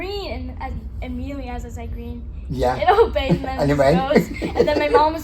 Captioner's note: laughs